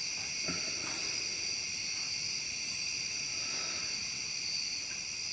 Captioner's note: insects chittering; breathing uneasily